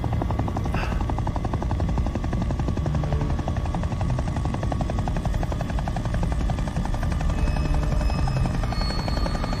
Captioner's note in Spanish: Sonido del motor de un helicóptero